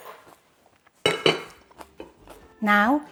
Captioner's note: chopsticks clink; lid clinks